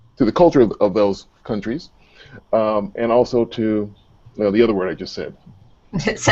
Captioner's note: laughter